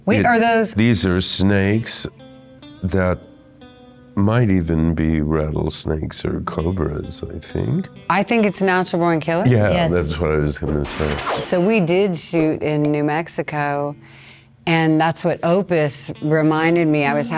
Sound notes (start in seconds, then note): 11.0 bell dinging